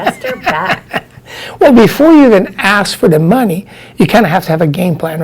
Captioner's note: laughs